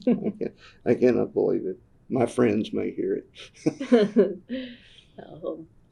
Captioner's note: laughter